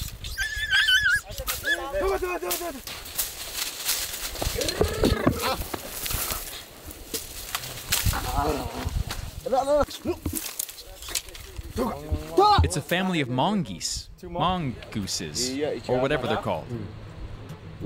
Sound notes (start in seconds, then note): 0.3 dog yelping; 3.5 bushes rustling